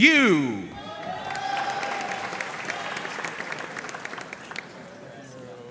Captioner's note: audience cheering and applauding